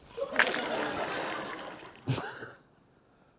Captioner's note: laughter; chuckles